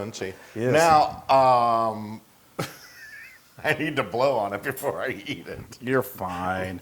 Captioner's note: laugh